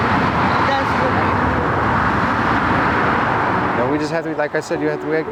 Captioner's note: traffic droning